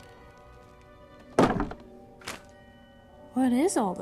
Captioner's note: thud